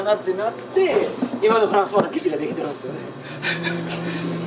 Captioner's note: laughs